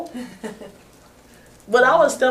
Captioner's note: laughs